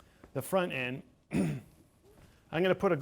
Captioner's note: clears throat